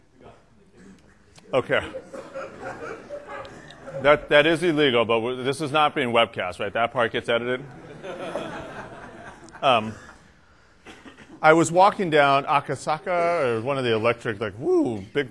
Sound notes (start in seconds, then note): 1.8 laughter; 7.6 laughter